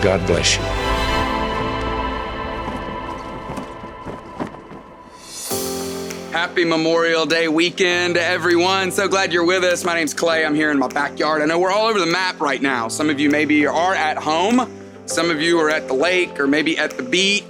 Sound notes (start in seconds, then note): 0.1 moving music; 1.6 flag waving